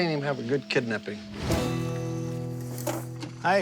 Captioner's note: crickets chirping